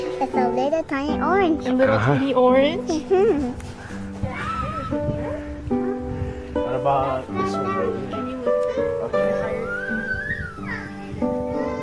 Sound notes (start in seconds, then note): 5.1 babbling